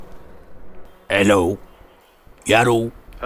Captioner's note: modulating voice